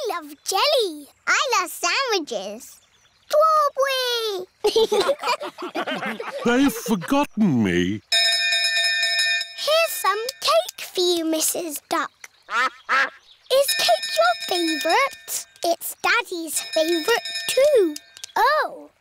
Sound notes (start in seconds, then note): 4.6 laughter; 12.5 quacking; 16.5 bell dinging